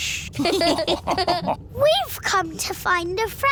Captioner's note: all laughing